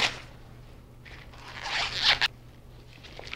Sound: husk squeaking against kernels

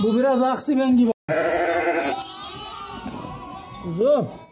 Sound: lamb sheep bleating sounds meeee meee meee

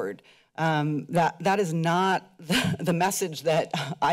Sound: chuckles

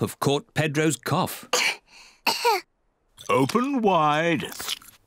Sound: both cough

